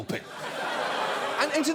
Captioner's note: laughter